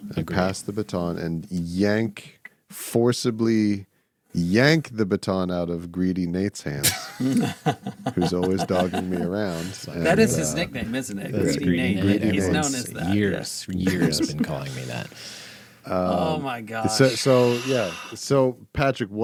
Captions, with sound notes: and pass the baton and yank forcibly, yank the baton out of greedy Nate's hands. (laughing) Who's always dogging me around. That is his nickname, isn't it? He's known as that. Years have been calling me that. Oh my gosh. So yeah, so Patrick,